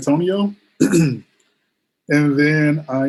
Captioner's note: clears throat